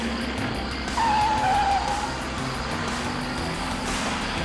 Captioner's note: tires screeching